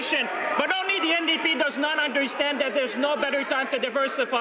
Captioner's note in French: voix de l'interprte